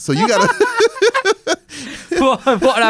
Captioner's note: laughs